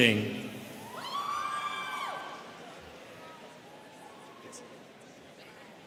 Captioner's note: students cheering